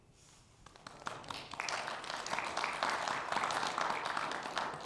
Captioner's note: audience applauding